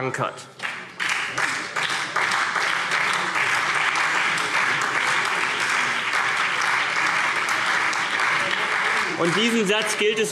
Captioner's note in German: Beifall CDU, BÜNDNIS 90/DIE GRÜNEN und SPD